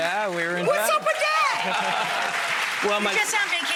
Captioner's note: audience clamors